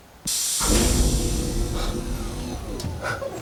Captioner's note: swooshing